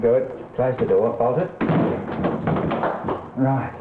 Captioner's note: closing door